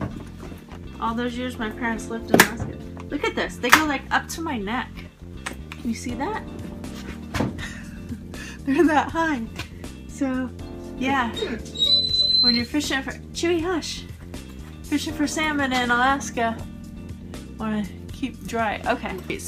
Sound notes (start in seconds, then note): 11.3 dog whines